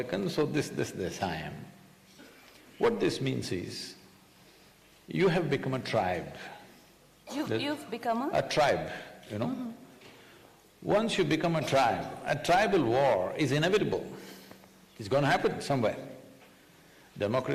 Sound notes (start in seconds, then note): none